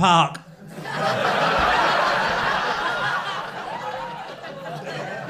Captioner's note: crowd laughing